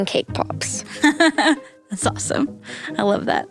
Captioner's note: laughing